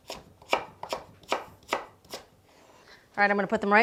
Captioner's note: knife clicking